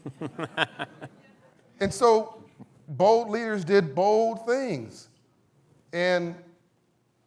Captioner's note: laughs